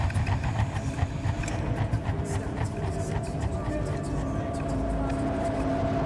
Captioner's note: voices echoing; suspenseful music